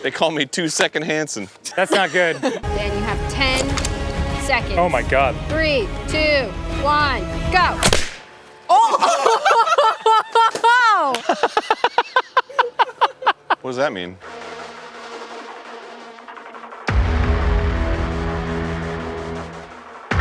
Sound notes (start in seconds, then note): 7.8 pop; 8.6 laughing with disbelief; 11.6 still laughing